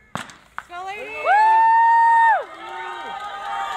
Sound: cheering

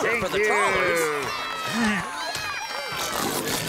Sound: cheering

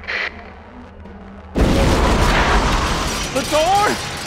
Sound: baaroommm

